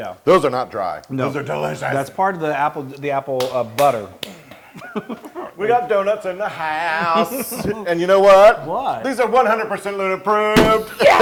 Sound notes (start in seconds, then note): 6.5 laugh; 10.8 laugh